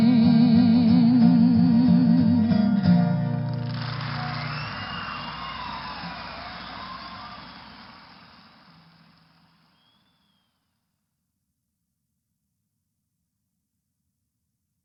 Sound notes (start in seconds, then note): 3.4 applause